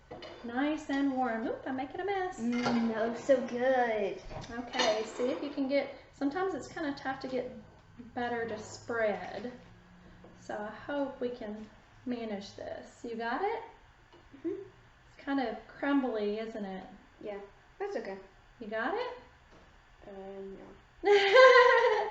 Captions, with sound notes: Nice and warm. Oops I'm making a mess. Mmmmm ... that looks so good. OK? See if you can get ... sometimes it's kind of tough to get butter to spread. So I hope we can manage this. You got it? Uh-huh. It's kind of crumbly, isn't it? Yeah, that's OK. You got it? Uhmmmm .... No. [laughing]